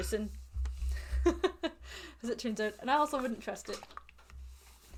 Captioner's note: laughs